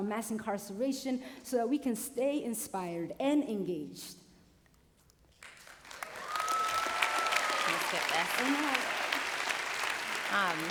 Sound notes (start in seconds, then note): 5.9 cheering